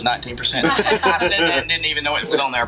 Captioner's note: laughter